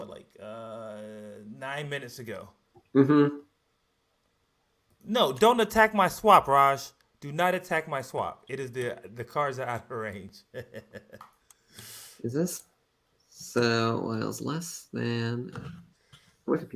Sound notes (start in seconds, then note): 10.1 laughs